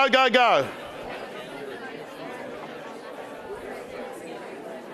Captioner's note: crowd chattering